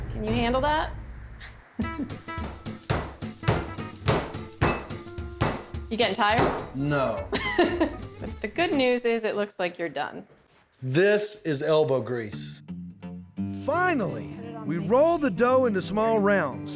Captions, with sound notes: CAN YOU HANDLE THAT? [POUNDING SOUND] YOU GETTING TIRED? [SAYS SARCASTICALLY] NO. [CHUCKLES] THE GOOD NEWS IS IT LOOKS LIKE YOU'RE DONE. THIS IS ELBOW GREASE! FINALLY, WE ROLL THE DOUGH INTO SMALL ROUNDS